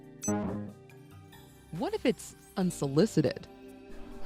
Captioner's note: digital beep